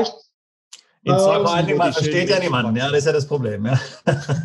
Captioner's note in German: lacht